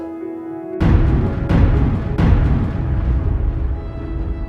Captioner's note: calm music; dull thud; calm music continues